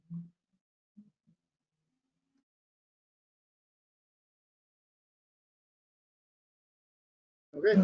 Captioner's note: pause